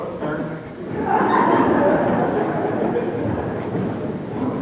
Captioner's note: laughter